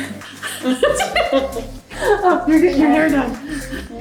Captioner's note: laughing